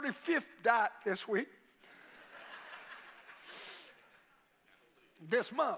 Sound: congregation laughing

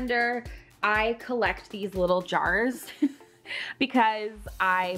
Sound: laughs

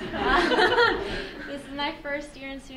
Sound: laughing

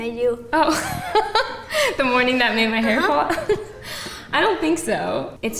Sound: laughing

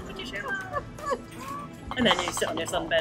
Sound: laughs

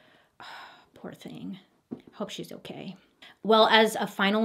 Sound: exhales

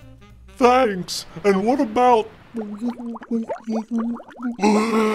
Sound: gasps

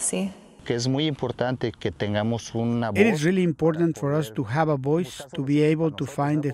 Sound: man speaking Spanish

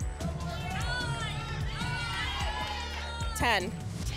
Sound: audience shouting numbers

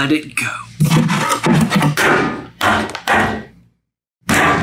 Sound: box thudding

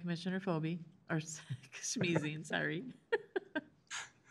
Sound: giggles

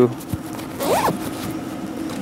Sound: zipper

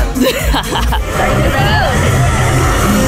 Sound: laughs

